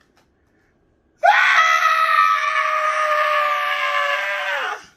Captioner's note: screaming